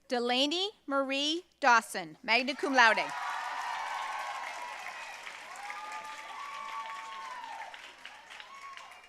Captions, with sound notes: Delaney Marie Dawson, magna cum laude. (audience cheering and applauding)